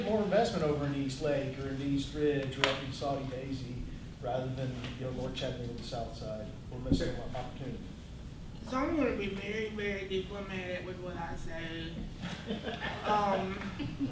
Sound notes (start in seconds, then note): 12.2 laughter